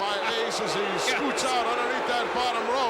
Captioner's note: audience booing